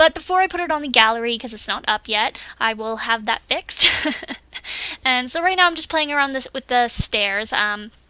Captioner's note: laughs